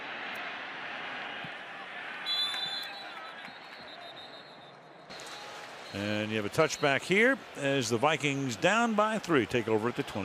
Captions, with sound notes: [whistle blows] And you have a touchback here as the Vikings down by 3,